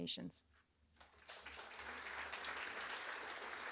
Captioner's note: applause